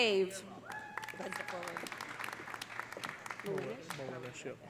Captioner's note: audience cheering; audience applauding